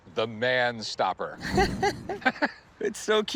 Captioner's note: laughs